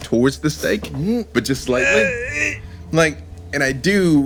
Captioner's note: grunting